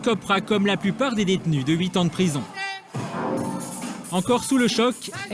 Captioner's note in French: bip